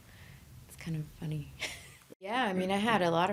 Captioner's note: laughing